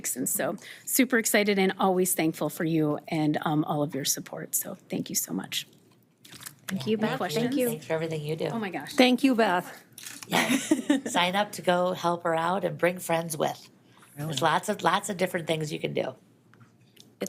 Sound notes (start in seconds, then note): 10.3 all chuckling